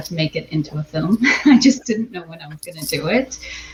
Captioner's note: chuckles